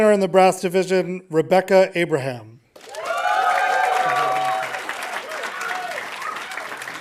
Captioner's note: audience applauding